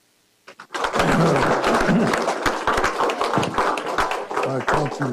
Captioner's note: applause